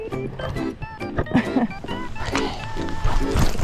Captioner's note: general whining